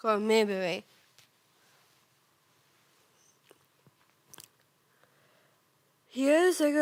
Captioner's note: rustling